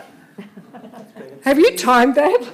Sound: laughing

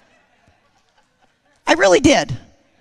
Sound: congregation laughing

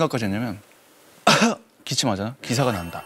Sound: cough

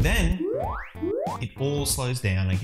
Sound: alarm ringing

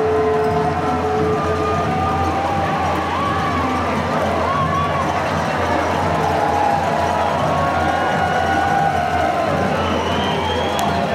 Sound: cheering

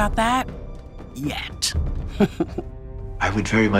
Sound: chuckling

